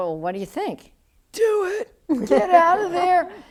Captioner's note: excited voice